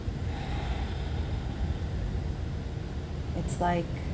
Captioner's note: Nev sighs